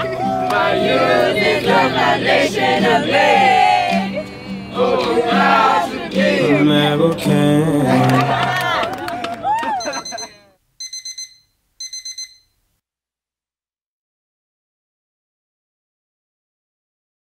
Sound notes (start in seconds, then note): 9.8 alarm beeping